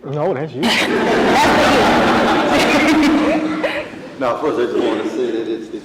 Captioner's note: audience laughing